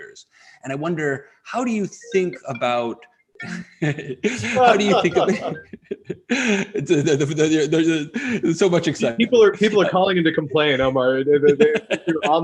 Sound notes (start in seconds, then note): 3.5 phone rings, laughter; 11.4 laughter